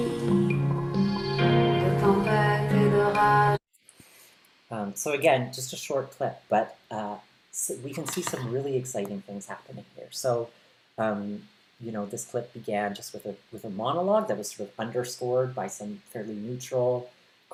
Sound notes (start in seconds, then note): none